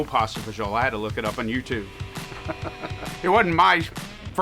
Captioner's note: laughs